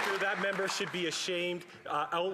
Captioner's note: some Applause